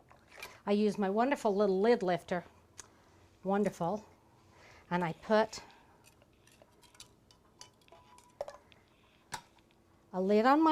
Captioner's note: clinking